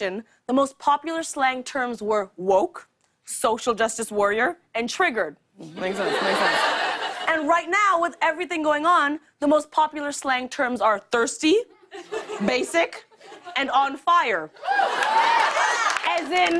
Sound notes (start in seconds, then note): 5.8 laughter; 14.6 cheers and applause